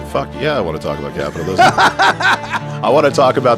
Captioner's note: laughs